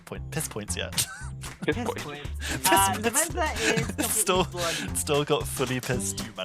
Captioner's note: laughing